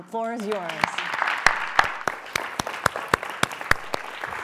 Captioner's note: applause